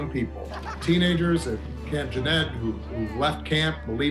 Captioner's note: campers laughing